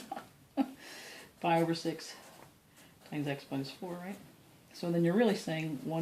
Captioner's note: laughter